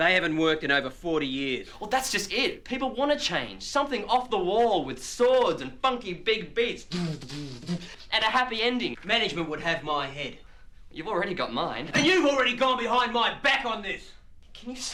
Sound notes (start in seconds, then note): 7.1 beatboxing